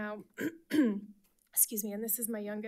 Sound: clearing throat

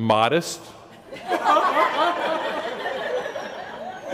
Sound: laughter

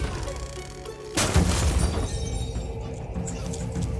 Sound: table breaks

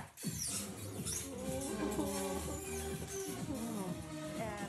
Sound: upbeat music; robot whirs

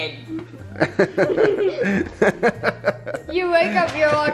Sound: laughing

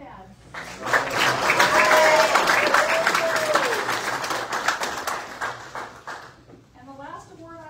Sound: audience cheers and applauds

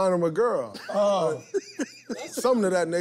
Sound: laughter

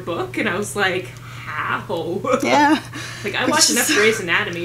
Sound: laughter

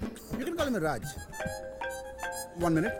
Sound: phone rings

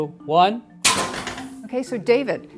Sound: device clanging

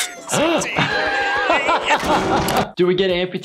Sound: Doctor laughing

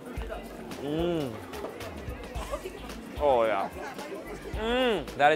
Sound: delighted hum

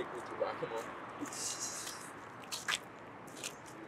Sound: all snickering

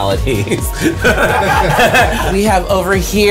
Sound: laughs

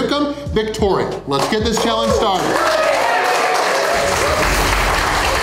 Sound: crowd cheering

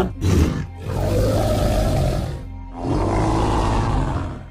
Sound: triceratops sounds

